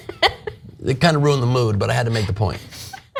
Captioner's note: laugh